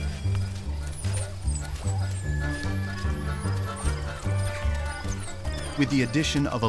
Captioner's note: pups whining